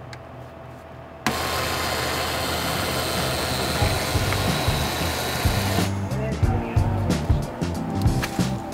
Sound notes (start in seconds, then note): 1.3 machine whizzing